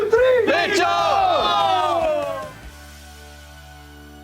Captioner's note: all yell